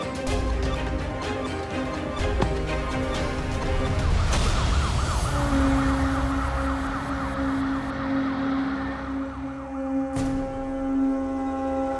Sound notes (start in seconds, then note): 2.1 tense music; 2.8 siren wailing